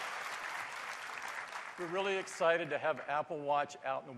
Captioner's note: applause